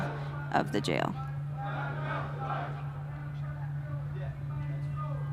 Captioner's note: chatter